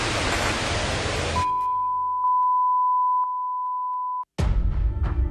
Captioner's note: static crackling; tone beeping; eerie music